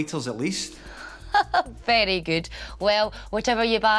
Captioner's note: laughs